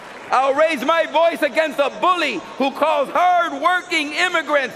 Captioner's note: cheering and applause